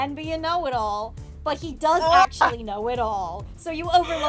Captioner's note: laughs; laughing